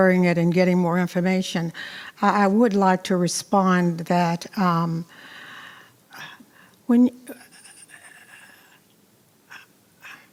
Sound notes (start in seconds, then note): 6.5 stuttering